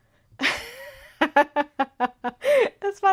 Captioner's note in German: Gelächter